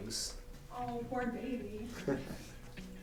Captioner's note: chuckles